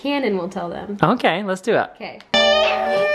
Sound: voiceover

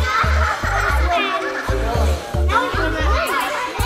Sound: giggling

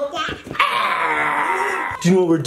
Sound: wailing

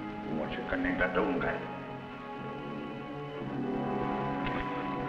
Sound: speaking foreign language

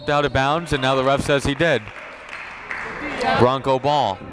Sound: applauding

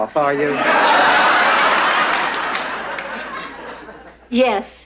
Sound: audience laughter

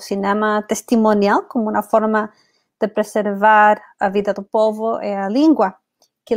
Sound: speaks portuguese

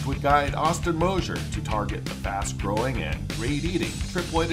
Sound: none

